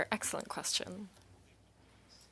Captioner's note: speaking in French